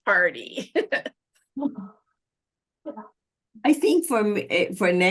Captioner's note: laughter